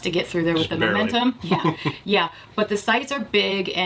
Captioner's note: laughing